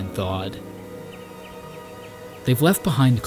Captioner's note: birds calling